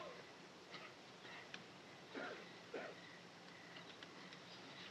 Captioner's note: groaning